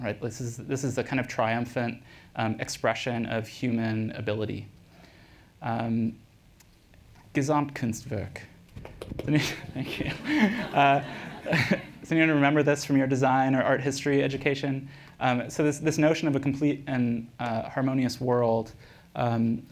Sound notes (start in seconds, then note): 8.3 scattered applause; 9.4 laughs